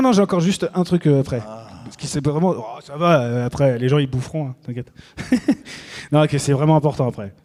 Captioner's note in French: rires